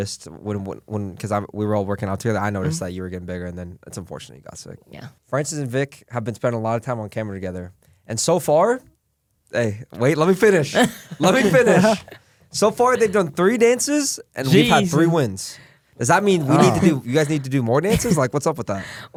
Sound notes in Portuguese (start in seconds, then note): 10.6 risos; 16.3 suspiros